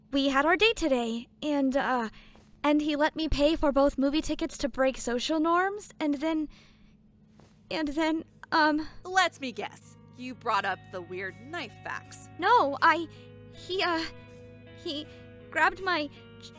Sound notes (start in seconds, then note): none